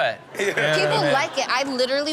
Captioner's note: audience laughs